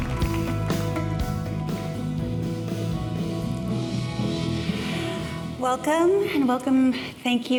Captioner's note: applause